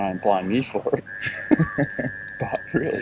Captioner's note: laughing